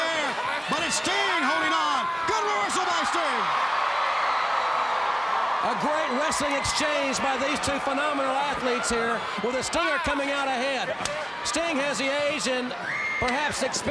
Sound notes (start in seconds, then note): 3.4 crowd cheering